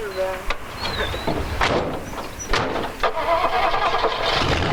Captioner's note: car doors thudding; car engine revving